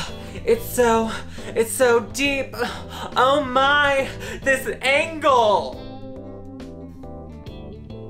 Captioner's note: breathes